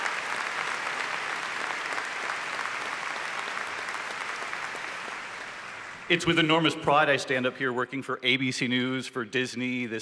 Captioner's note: applause